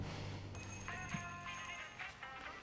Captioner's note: running footsteps; doorbell jingles, drucinda sighs; cell phone rings